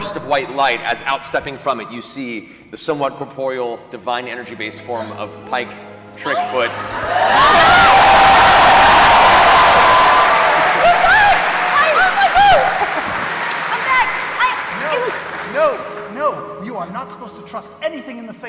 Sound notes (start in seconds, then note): 8.1 cheering